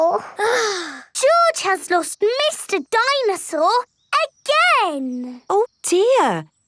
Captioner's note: sighs